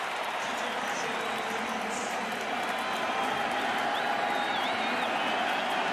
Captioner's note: pa announcement